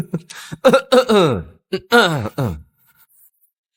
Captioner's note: coughing